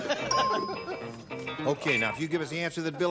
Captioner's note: ding